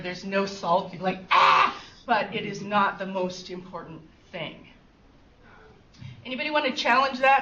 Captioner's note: fake screams